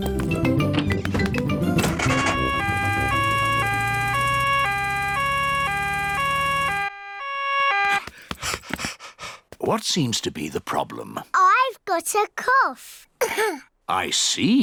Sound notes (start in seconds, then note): 1.8 siren wails; 13.2 coughs